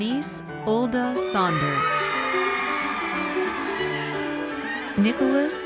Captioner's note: audience cheers